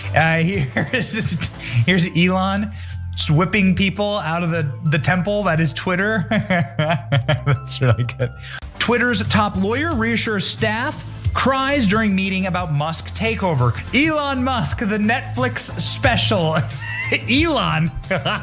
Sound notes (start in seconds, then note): 6.2 laugh; 16.5 laugh